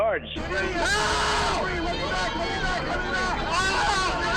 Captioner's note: man screaming